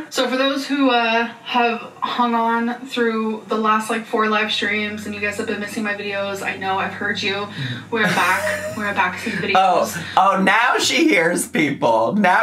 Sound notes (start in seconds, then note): 8.0 laughs